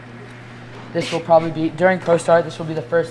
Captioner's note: snickers